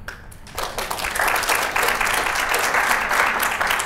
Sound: applause

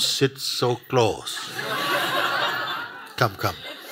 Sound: laughter

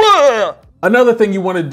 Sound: gags

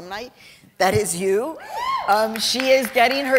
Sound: cheering; applause

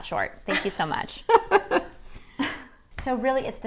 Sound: laughs

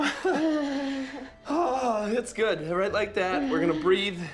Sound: both chuckling anxiously

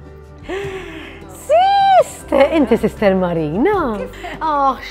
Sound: gasps

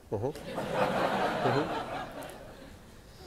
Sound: laughing

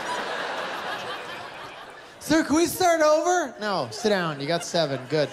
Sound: laughter

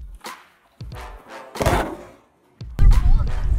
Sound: gun fires

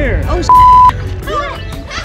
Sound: beep; laughter sound effect

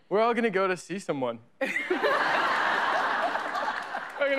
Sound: laughter

